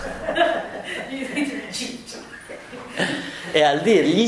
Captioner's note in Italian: risate